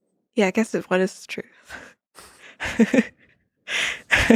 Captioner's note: laughs